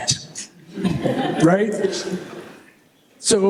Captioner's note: laughter